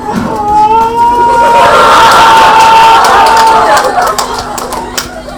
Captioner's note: beautiful loud fake crying noises bc tfw no gf